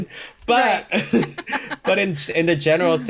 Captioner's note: both laugh